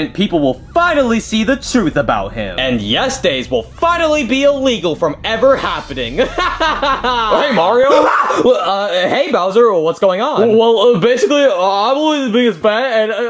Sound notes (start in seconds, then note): 6.0 Mario laughing; 8.5 gasps